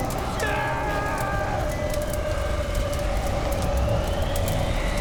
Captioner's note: screaming